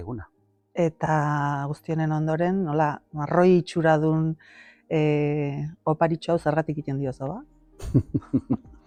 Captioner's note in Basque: risas